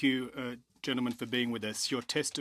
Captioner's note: speaking French